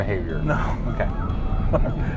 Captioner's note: laughing